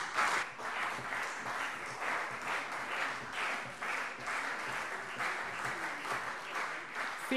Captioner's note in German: Beifall CDU und BÜNDNIS 90/DIE GRÜNEN